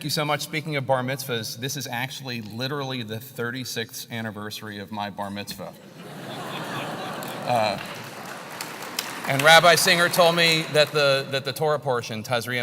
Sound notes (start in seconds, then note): 5.8 laugh; 6.3 applause